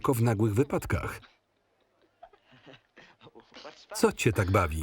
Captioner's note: gentle chuckling